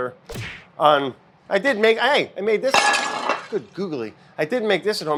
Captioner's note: plate crashes